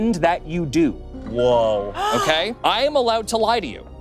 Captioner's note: gasping